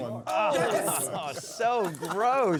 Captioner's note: cheering